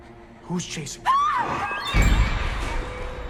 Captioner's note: Elaine screams; sinister music